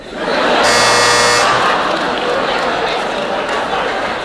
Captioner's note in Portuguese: campainha